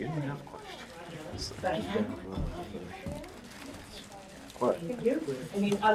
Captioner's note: people chatter